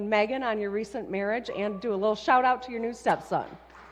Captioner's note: applause